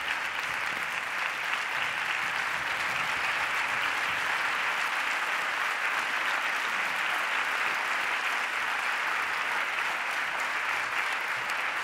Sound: applause

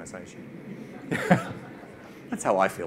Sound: all laugh

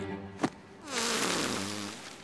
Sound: farting

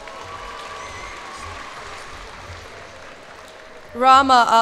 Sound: cheers and applause

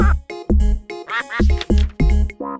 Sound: quacks

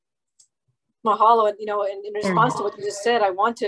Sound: speaking in foreign language

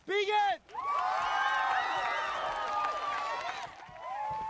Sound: all cheering

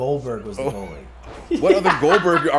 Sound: laugh

